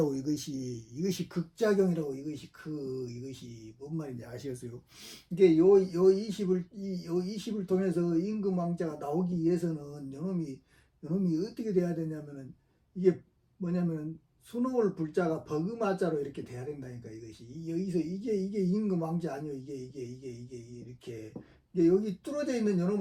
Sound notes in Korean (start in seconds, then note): 4.9 콧방귀